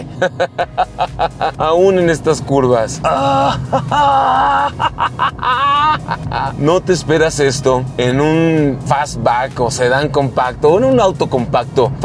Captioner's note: grunts excitedly